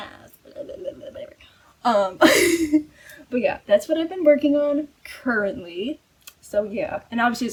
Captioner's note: laughs